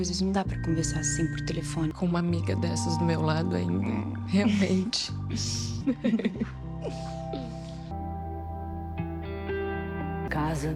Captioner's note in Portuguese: risadas